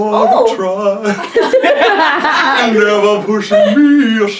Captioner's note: laughs